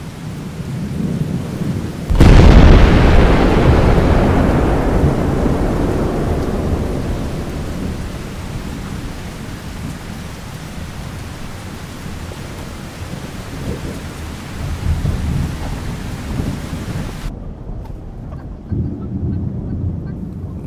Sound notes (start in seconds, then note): 0.3 rain heavily pattering; 0.3 thunder loudly crashes; 7.0 rain heavily pouring; 7.0 thunder rumbling; 17.3 distant thunder rumbling; 18.2 chickens clucking